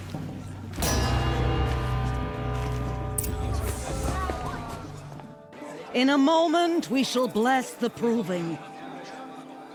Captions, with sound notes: [gong rings] In a moment, we shall bless the Proving.